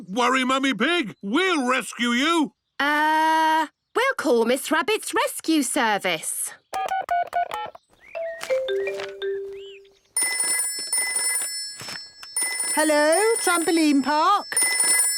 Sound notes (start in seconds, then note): 8.1 phone beeping; 10.1 phone ringing